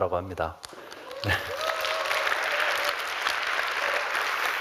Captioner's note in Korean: 박수와 환호